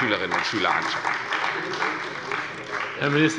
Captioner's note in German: Beifall bei Abgeordneten der CDU